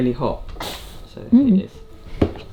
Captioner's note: water bottle spritzing